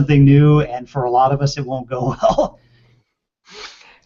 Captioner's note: laughs